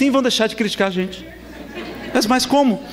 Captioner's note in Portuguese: risadas